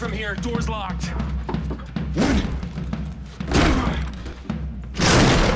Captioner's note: grunting; crash